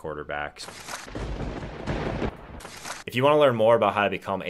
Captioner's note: thunderbolt strikes